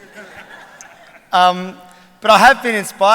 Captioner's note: laughter